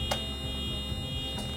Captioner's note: beeping